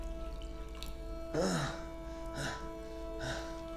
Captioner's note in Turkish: Nefes sesi